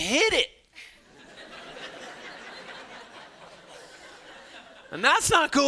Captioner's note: students laughing